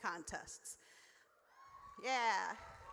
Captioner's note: audience cheers